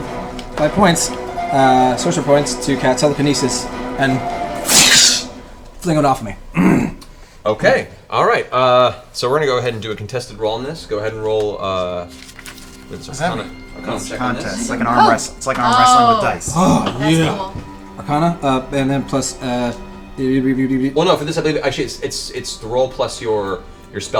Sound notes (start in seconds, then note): 4.6 blast sound